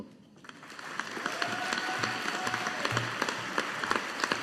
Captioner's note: audience applauding